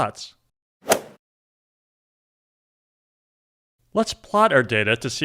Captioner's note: golf swing sound effect